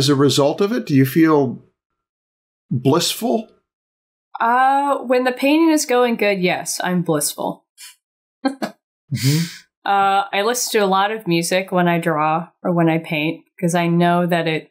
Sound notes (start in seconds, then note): 9.1 chuckles